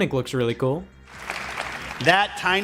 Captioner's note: audience applauds